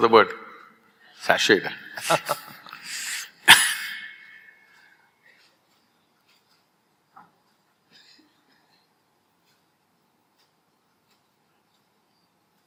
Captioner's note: both laugh